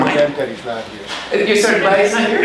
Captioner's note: chattering